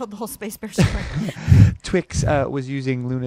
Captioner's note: both laugh